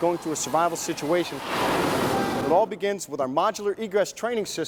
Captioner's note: loud crash